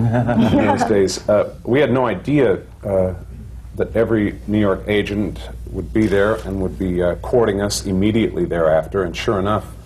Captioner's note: laughter